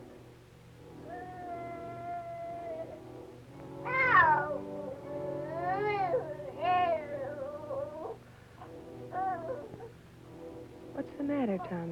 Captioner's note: crying